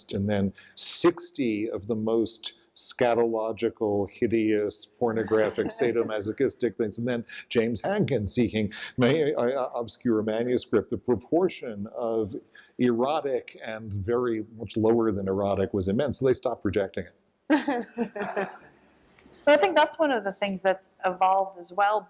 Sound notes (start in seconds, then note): 17.5 laughter